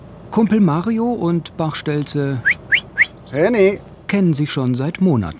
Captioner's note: whistles